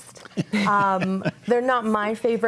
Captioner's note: laughs